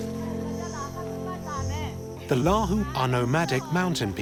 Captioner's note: women speaking Lahu language